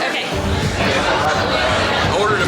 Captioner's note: laughs; chatter